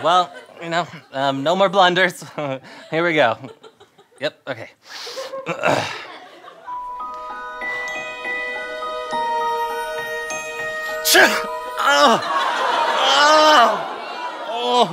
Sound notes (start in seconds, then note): 6.6 magical music; 11.2 sneezes